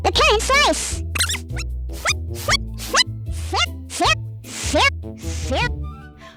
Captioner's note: repeats slice of last word in a randomly chaotic way